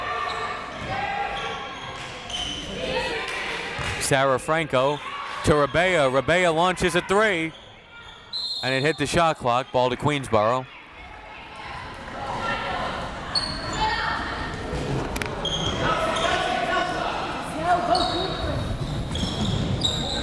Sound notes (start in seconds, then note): 0.2 crowd members shouting; 8.3 whistle tweeting; 11.9 crowd members shouting